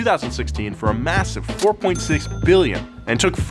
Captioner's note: cash register dings